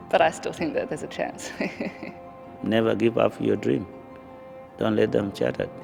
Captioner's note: chuckles